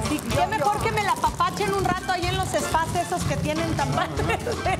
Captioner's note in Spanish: Ríe